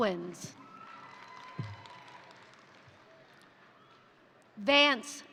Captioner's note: crowd cheering; crowd applauding